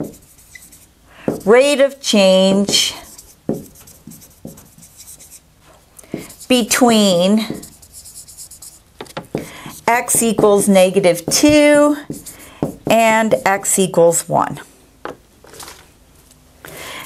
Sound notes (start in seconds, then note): 3.0 sound of writing